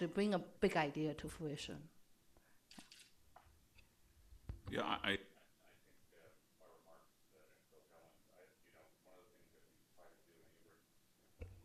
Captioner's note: off mic